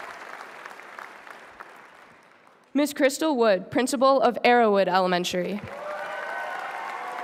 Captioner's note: applause